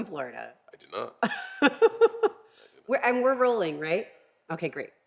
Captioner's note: laugh